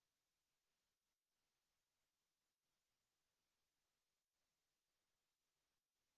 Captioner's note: none